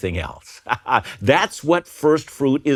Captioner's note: laughs